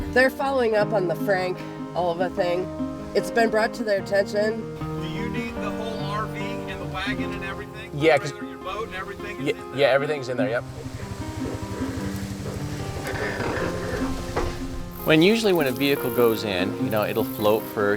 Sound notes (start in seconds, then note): 10.5 boat engine revving; 10.6 truck creaking